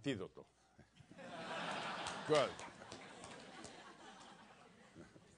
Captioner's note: laugh